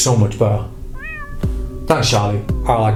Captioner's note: cat meowing